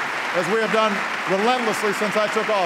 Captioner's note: applause